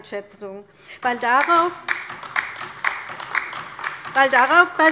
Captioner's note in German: Beifall bei der LINKEN